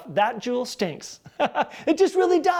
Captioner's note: laughs